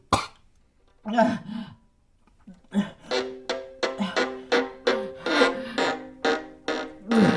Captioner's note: Anne breathing deeply; eerie dramatic music